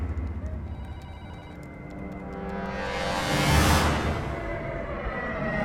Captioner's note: plane whirring